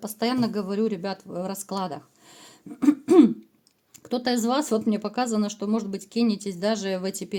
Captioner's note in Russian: откашливается